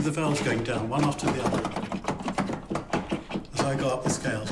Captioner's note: keys clacking